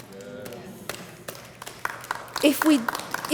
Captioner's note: audience clapping